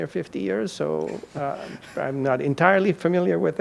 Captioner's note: participant chuckles